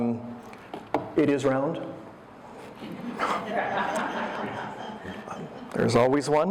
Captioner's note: audience laughter